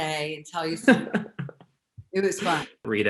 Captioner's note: laughs